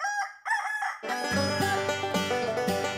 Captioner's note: rooster crows; banjo plays